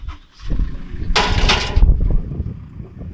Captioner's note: ladder clanging; engine starting